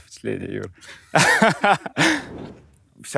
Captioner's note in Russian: смеется